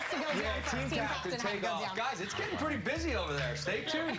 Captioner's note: cheers and applause